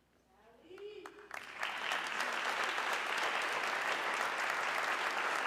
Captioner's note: audience clapping